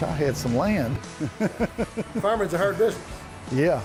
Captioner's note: laughs